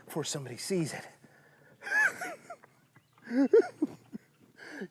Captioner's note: laughs